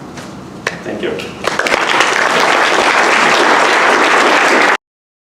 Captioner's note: applause